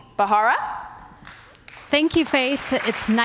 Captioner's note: applause